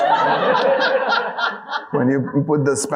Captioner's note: audience laughing